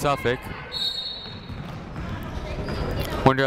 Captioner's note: whistle blows